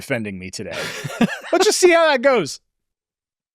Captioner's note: laughs